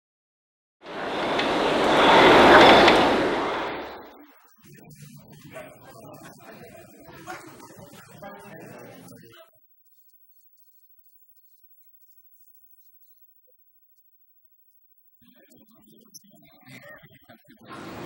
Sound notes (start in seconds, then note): 0.9 rowing machine noise